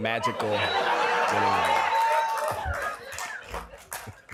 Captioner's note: laughter and cheering